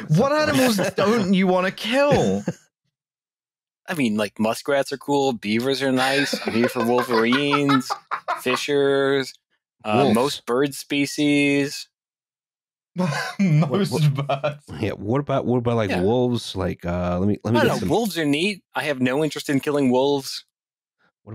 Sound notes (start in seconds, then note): 6.0 laughs wildly; 13.0 laughing